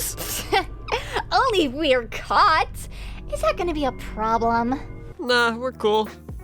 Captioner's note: chuckle